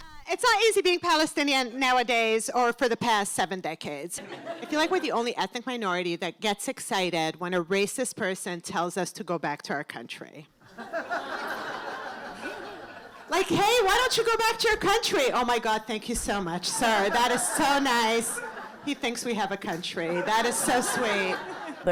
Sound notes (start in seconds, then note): 4.2 laughter; 10.6 laughter